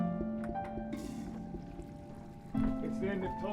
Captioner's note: toilet flushes